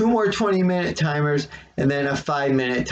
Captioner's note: none